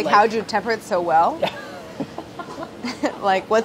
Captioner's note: laughing